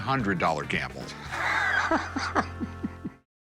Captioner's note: laughs